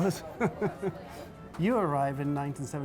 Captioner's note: chuckles